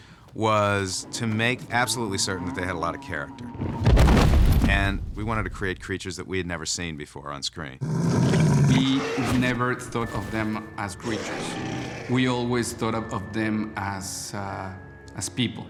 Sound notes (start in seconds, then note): 7.8 growling